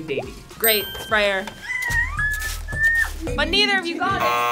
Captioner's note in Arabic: تصرخ